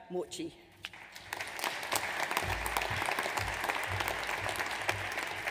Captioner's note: audience applauds